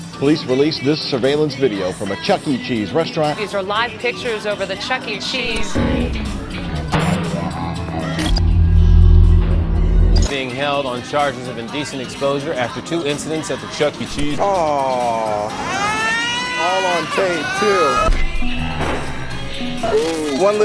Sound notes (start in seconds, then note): 5.4 suspenseful music; 15.5 child crying; 18.0 suspenseful music